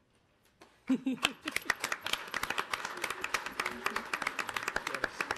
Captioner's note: audience applauding